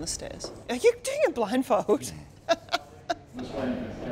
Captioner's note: chuckles